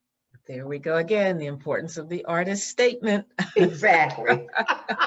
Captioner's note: laughs